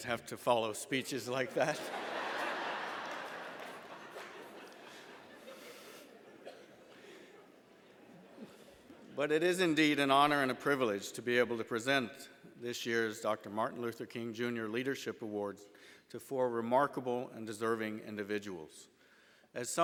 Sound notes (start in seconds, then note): 1.4 laughter